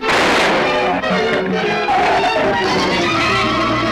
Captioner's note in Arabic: إطلاق نار; زئير الزبابة; موسيقى أوركسترالية درامية